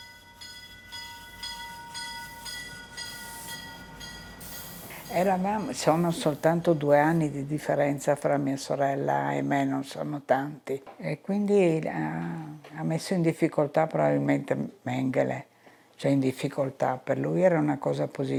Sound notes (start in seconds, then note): 4.6 speaking in foreign language